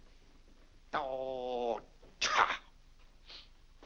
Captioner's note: grumbling